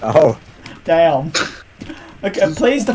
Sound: laughing

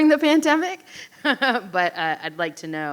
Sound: laughing

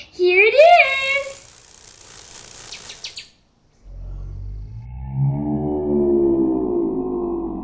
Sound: wings buzzing; bird chirping

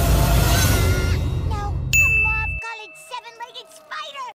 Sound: screams

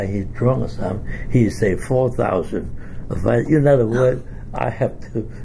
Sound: scoffs; laughs

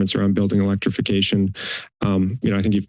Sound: inhales

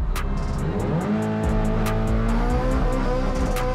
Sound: engine revving

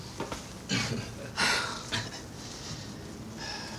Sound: laughs nervously

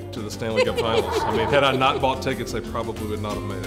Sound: laughing

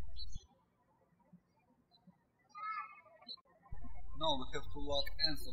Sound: birds chirping

